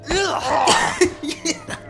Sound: chuckling

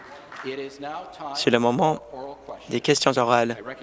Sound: applause

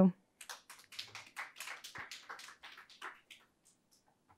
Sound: audience clapping

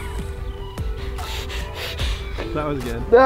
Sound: heavy breathing

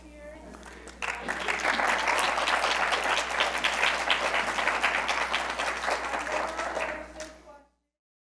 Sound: audience applauding

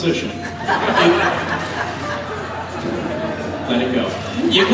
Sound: audience laughs

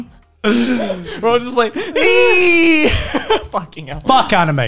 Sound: laughing; yells

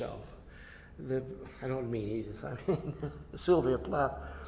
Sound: laughs

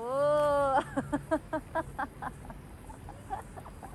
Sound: laughing

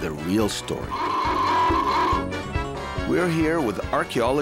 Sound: animated sound of alarm

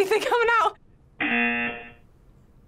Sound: buzzer

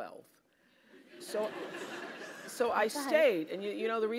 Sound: laugh

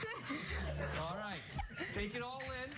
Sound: laughter

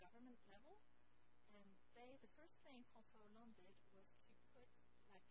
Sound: speaks foreign language

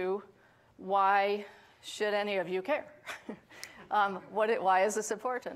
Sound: chuckles

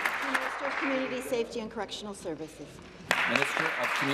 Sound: applause

